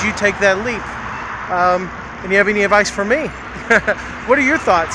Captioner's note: laughs